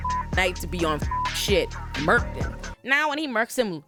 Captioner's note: beep